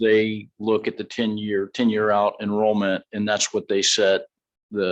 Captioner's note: none